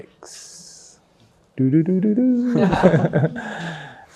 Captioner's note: laughs